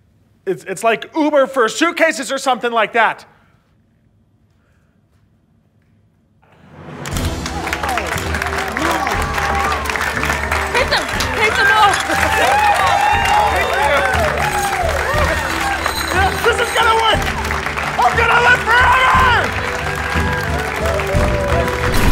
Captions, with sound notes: It's, it's like Uber for suitcases or something like that! [applause] - Take them, take them all! [medals jingling] - This is gonna work! I'm gonna live forever!!